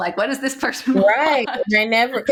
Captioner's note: laughing